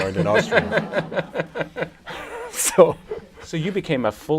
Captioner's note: laughter